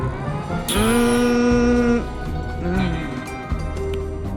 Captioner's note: kissing sounds